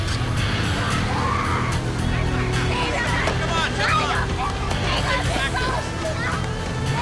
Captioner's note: woman speaking in foreign language